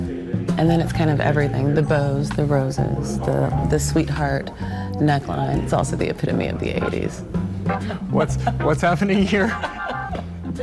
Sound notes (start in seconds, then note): 9.2 chuckling; 9.2 laughing